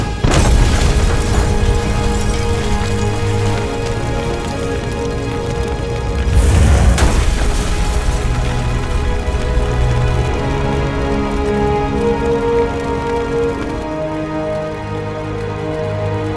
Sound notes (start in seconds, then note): 0.3 explosion booms; 6.9 flames whoosh; 9.3 flames crackling; 9.3 ominous music